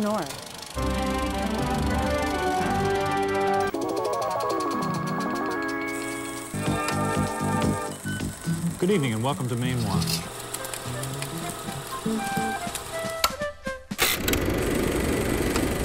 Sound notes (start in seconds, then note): 0.3 upbeat music; 3.9 mysterious music; 10.6 upbeat music; 11.7 projector clicking